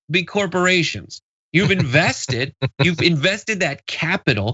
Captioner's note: laugh